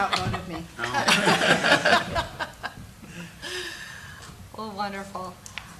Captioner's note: board laughing